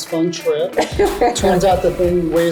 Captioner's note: laughs